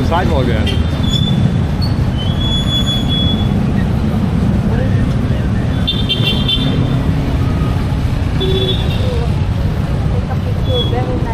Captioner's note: street noise